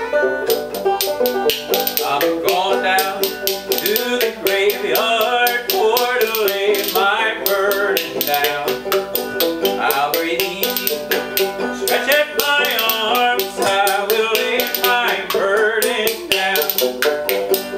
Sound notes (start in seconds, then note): 0.9 spoons clack rhythmically